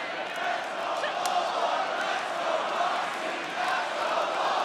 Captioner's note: audience chanting